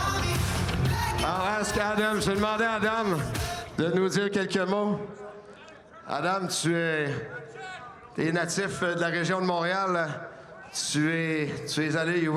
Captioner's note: speaking French